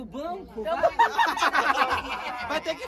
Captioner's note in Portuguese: risos